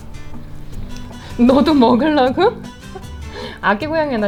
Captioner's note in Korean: 웃음